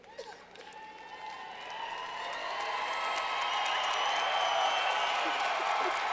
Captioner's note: clapping